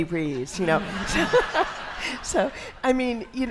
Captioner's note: audience laughs